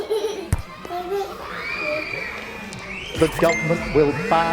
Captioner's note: child giggling; children screaming; phone buzzing; notification chiming